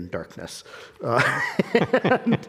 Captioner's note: both laughing